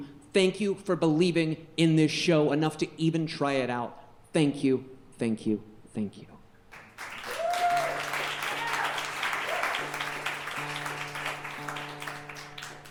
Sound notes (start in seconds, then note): 6.8 audience cheering and clapping